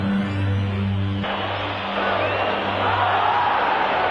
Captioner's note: crowd cheering; whacks